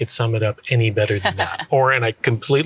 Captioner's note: laughs